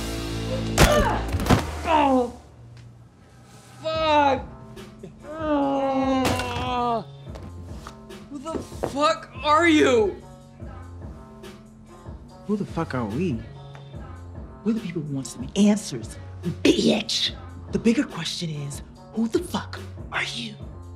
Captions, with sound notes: -(thudding) -(groaning) Fuck! (groaning) Who the fuck are you?! Who the fuck are we? We're the people who want some answers, bitch! The bigger question is who the fuck are you?